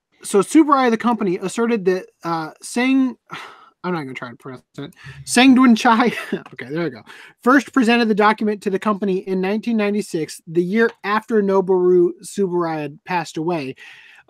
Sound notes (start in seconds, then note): 3.2 scoffs; 6.1 laughs